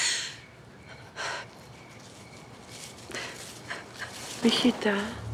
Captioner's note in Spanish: sollozos